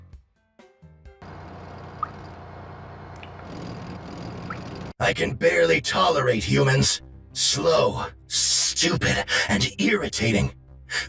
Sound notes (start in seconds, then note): 1.2 menacing grunting of unholy machinery